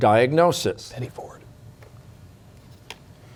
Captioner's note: whispering